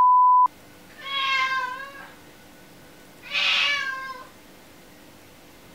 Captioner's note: cat meowing angrily